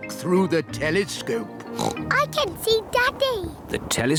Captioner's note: oinks